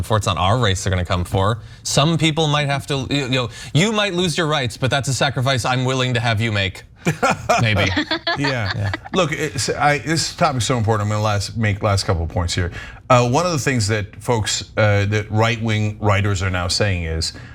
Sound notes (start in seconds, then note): 7.0 laugh